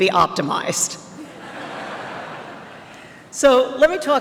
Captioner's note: laughter